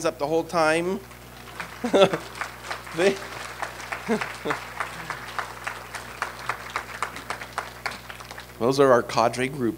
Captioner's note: applause